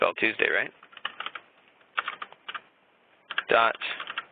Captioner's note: keyboard typing